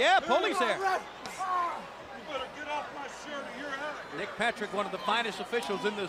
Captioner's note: crowd chatter